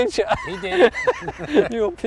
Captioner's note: laughs